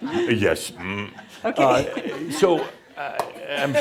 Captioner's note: chuckling